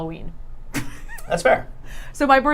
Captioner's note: laughing